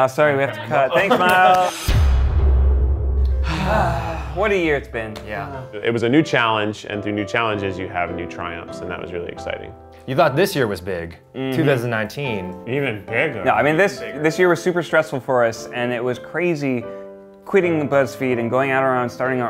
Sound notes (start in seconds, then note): 1.6 intense boom; 3.2 sigh